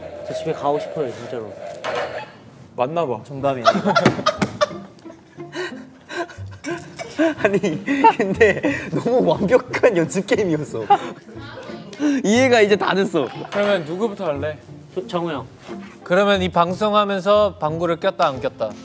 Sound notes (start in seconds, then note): 3.6 laughing